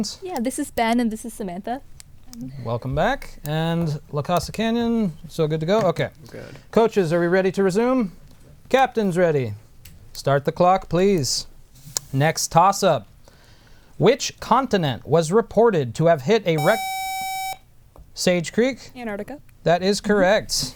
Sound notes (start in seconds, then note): 16.6 buzzer